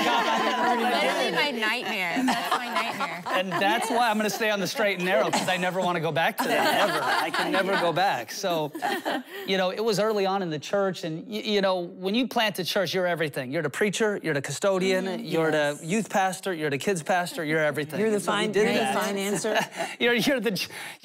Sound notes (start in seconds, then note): 4.7 laughter